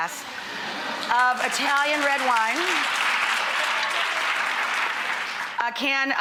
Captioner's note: audience applauds